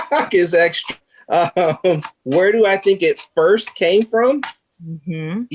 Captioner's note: laughing